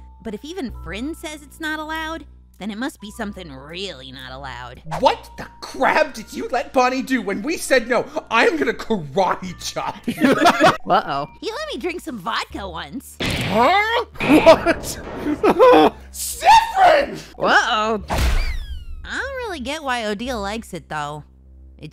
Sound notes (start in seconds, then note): 18.1 slam